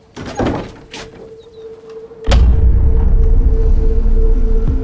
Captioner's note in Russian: скрип открывающейся двери, громкий щелчок выключателя; нагнетающая музыка